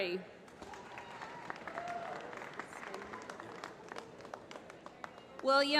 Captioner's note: applause